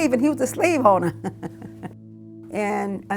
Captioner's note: chuckles